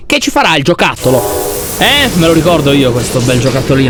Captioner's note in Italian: suono di vapore e macchine in funzione